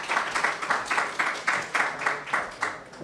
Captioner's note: applause